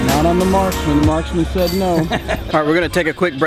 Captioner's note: laughs